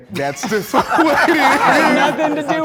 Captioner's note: group laughs